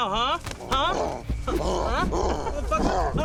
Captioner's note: growling